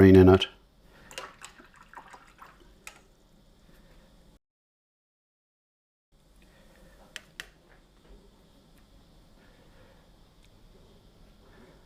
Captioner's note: silence